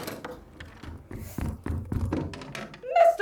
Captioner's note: door opens; rushed footsteps